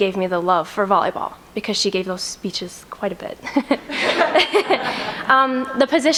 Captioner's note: laughs